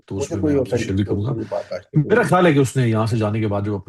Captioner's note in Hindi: हँसी